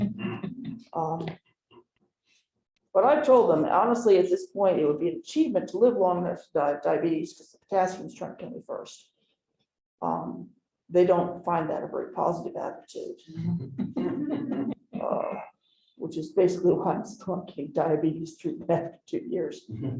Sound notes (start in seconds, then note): 0.0 chuckling; 13.4 chuckling